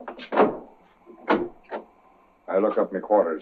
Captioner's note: door opens